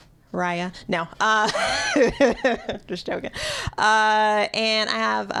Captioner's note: laughter